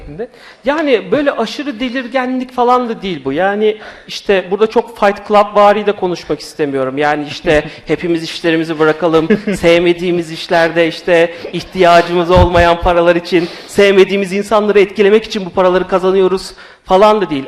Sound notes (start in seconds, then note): 8.6 laughs